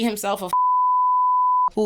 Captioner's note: beep